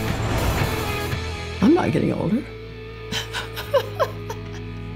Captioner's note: laughs